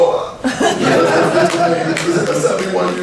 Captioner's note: laughing